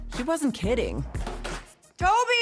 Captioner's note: door opens & closes